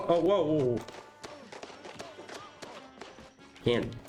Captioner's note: Angry Eggplant Noises